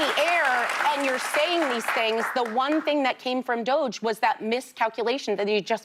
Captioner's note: applause